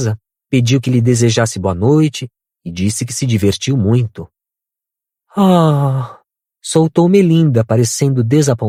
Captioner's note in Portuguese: suspirando